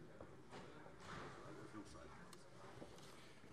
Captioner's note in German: none